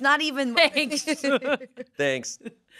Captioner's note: laughs